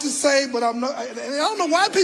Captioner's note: stammering